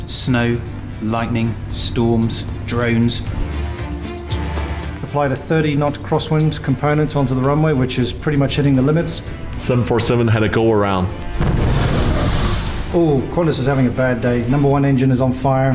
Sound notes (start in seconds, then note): 11.0 plane blasts